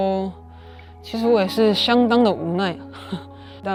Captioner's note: sighs